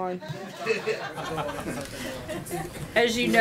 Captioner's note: laughter